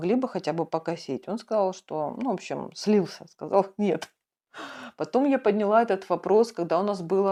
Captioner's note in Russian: тяжело вздыхает